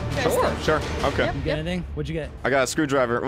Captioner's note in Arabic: none